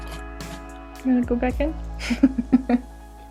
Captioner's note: laughs